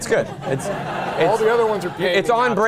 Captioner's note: laugh